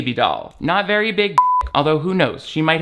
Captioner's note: beep